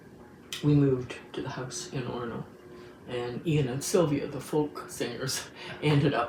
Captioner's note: chuckles